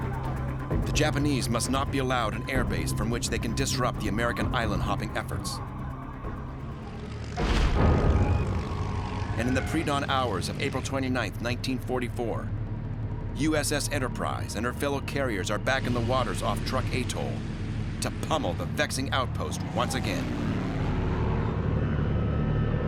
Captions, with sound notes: The Japanese must not be allowed an airbase from which they can disrupt the American island-hopping efforts. [engine roaring] In the predawn hours of April 29, 1944, USS Enterprise and her fellow carriers are back in the waters off Truk Atoll to pummel the vexing outpost once again. [engine roaring]